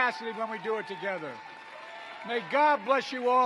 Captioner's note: applause